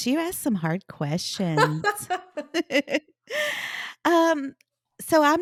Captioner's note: laugh